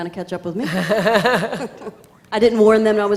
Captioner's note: laughing